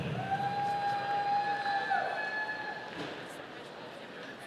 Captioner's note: audience cheering